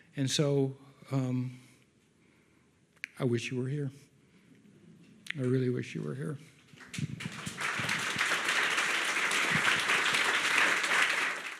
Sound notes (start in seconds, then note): 6.8 audience applauds